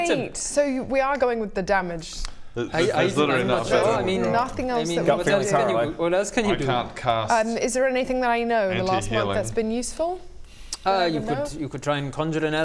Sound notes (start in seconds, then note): none